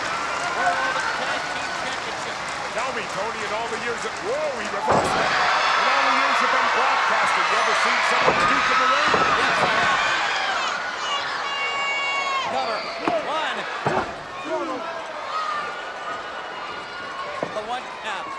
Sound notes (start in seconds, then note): 5.8 crowd cheering; 8.7 presenter speaking faintly off mic